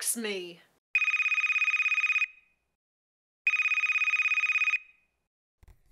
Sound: phone ringing

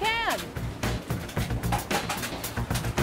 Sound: can rattles

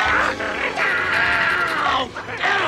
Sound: screaming

